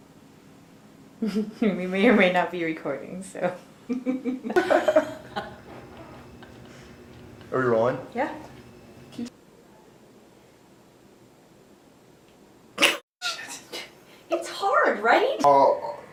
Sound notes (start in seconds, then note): 3.9 laughter; 8.9 uncomfortable silence